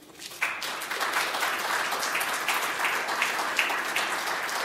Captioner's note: audience applauding